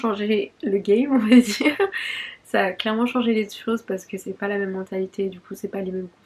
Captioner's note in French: rires